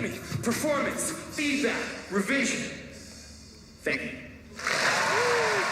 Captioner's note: audience applause